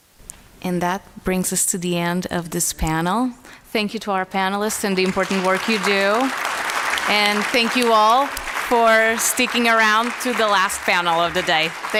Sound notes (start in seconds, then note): 6.4 applause